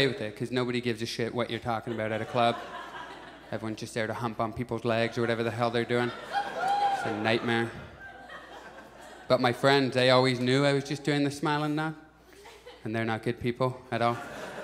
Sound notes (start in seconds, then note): 6.3 audience shouts; 14.0 audience laughs